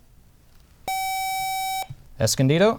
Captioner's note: buzzer